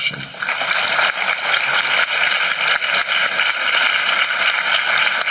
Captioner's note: applause